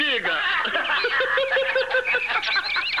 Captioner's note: laughing